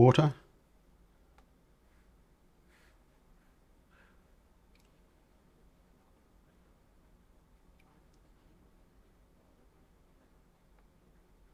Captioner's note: silence